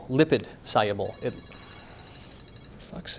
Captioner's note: phone rings